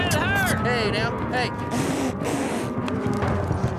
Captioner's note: squeaky blowing sounds; fast hoof beats